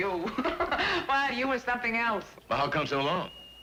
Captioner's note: laughs